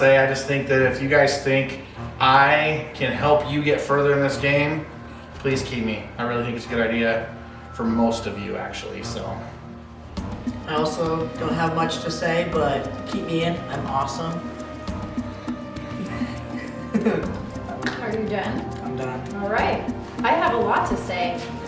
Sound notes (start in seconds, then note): 15.9 laughing